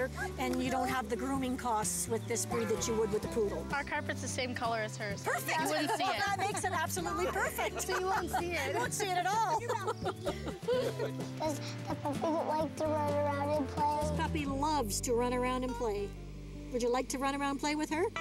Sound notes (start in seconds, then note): 8.8 laughing; 10.5 chuckling